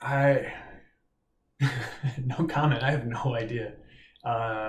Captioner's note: laughs